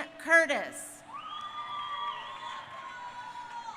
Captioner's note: crowd cheering